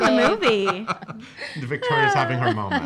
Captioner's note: laughing